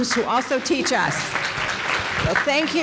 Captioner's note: audience applauding